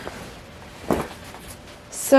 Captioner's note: twumpf